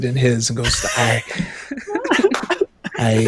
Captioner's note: laughing